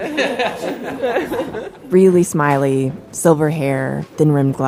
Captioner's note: laughs